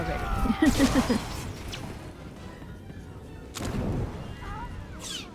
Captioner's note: laughs